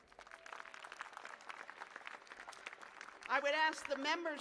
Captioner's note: applause